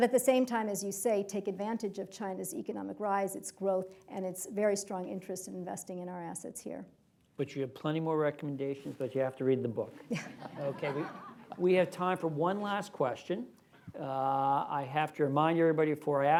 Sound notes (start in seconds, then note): 10.0 laughter